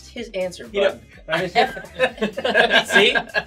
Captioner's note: they laugh